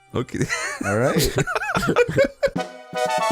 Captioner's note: laughter